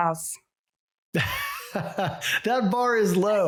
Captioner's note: laughs